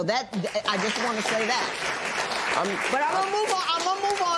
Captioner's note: applause